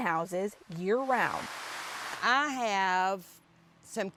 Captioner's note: natural sound: greenhouse sprinkler